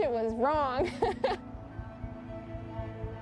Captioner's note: laughing